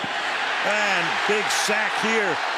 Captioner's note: cheering